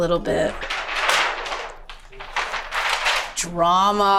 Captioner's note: plastic rustles